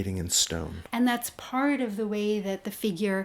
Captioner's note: voiceover